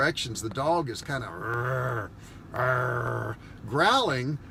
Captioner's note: growling sounds